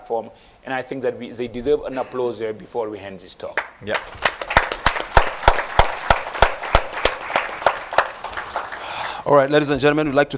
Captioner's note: applause